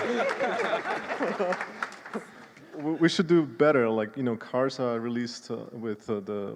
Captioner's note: applause